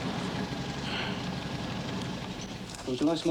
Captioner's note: sighing